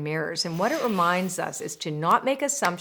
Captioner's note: loud whooshing